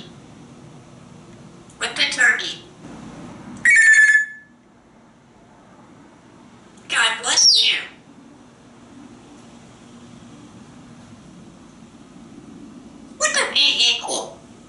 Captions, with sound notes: What the turkey? [telephone sound] God bless you! What does E equal?